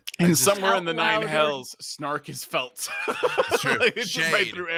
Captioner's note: laughs